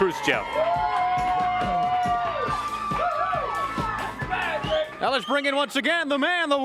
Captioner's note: crowd cheering